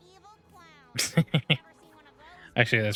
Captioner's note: upbeat music; laughs